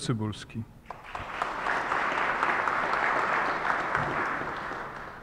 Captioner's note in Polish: oklaski